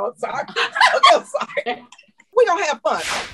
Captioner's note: laughter